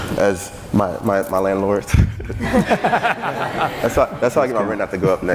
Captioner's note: laughing